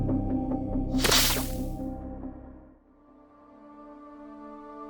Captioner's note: static crackles